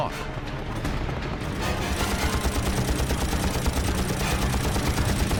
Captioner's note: gunfire